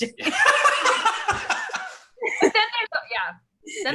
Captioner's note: laughs